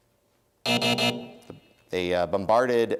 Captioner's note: buzzer